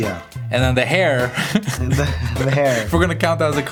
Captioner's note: laughter